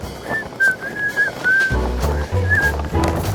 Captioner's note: whistling